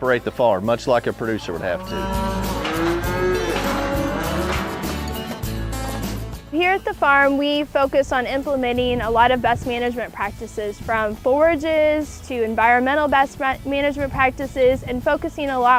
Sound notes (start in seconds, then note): 1.1 cows mooing